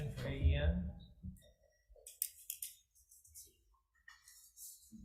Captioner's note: papers shuffling